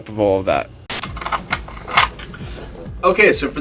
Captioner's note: loudly screws top back on rum and coke bottle